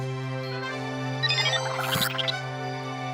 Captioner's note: beeping